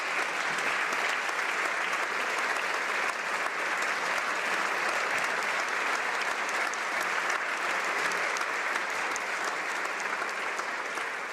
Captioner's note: applause